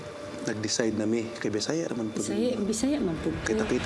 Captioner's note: in Bisaya